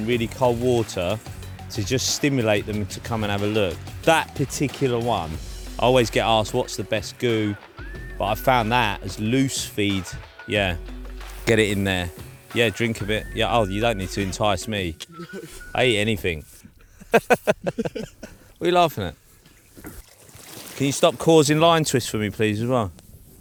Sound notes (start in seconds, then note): 16.6 laughs